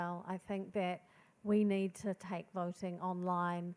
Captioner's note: none